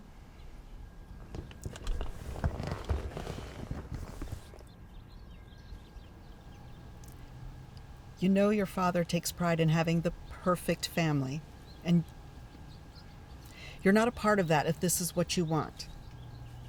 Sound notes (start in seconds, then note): none